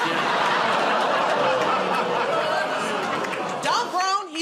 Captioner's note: laughter; audience gasps, groans